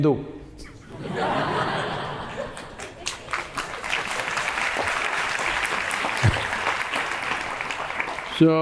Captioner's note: laughter/applause